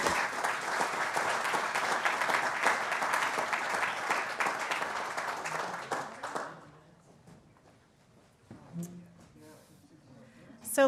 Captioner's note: applause